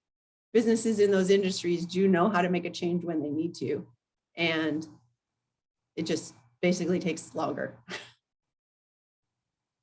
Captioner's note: laugh